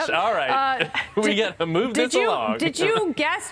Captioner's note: laughter